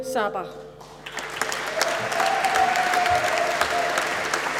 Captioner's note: applause